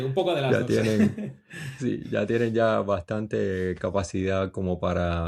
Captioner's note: laughs